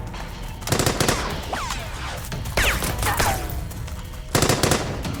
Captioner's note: gunshots blasting